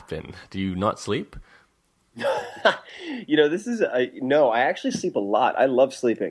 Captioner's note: laughs